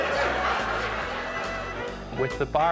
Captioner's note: laughter